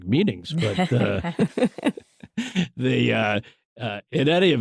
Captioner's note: laughter